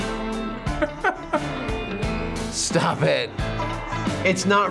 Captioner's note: laughs